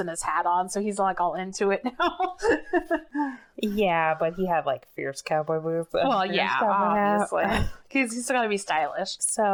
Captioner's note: laughs